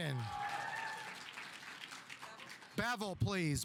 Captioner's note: audience applauding